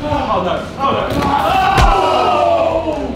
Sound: crowd cheering; loud smack

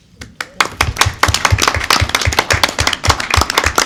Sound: clapping

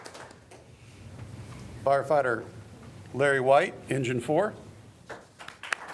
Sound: applause

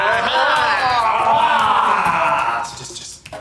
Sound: men yelling

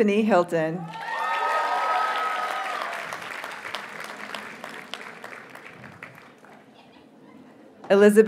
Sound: audience cheers and applauds

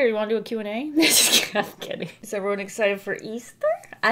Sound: laughs

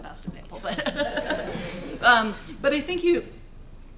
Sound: laughing

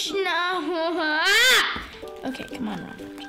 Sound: screaming

